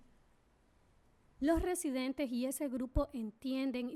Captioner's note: speaking spanish